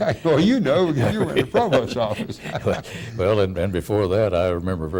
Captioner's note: laughing